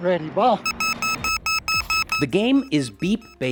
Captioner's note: alarm beeping